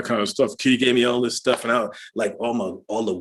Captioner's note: normal voice